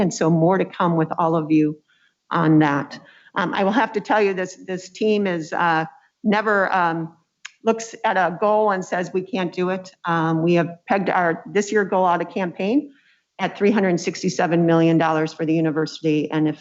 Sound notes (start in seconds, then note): none